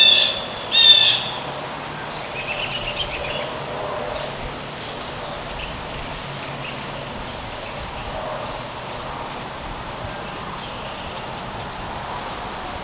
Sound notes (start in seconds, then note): 1.6 birds/wind